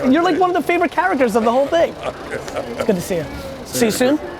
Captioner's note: laughs